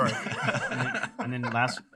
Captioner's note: laughter